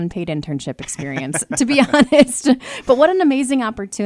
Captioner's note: both laughing